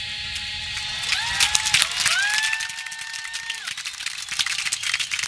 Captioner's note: audience clapping